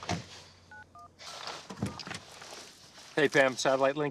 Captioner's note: door open close